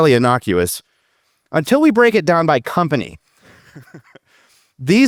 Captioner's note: chuckles